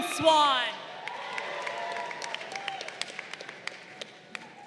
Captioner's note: crowd applauding